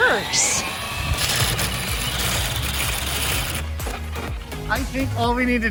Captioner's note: foam scratching